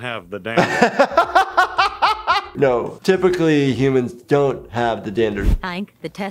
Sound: laughs

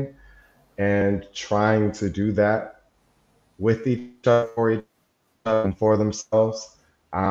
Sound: audio distorts

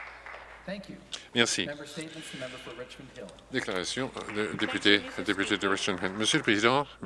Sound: some Applause

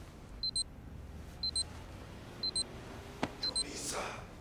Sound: clock alarm buzzing; whispering hoarsely

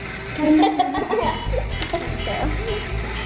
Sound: kids laughing

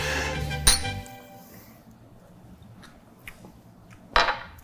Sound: glass tinkling

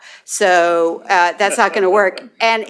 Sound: laughter

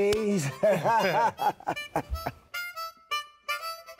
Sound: laughing

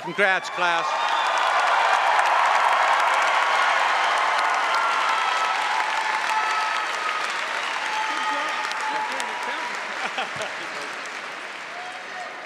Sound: cheering & Applause

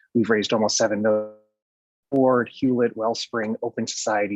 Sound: distorted audio

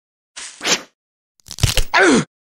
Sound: bone Crunch

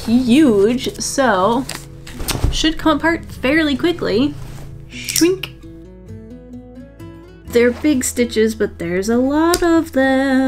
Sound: singsong voice

